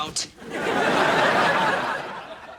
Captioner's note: audience laughing